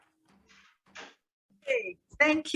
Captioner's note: gavel bangs